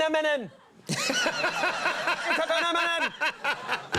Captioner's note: audience laughs